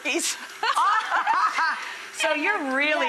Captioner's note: laughs